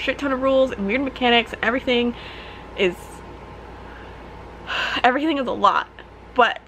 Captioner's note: sigh